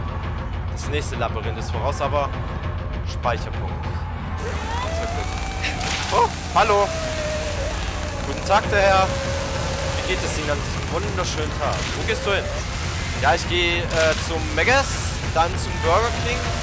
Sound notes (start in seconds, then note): 4.2 screaming combined with chainsaw noises